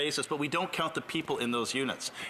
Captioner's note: speaking French